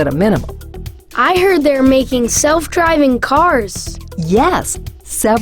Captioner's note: voiceover